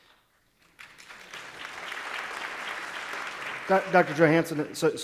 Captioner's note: applause